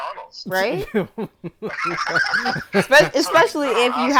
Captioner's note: laughing